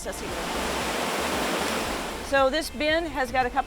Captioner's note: water rushing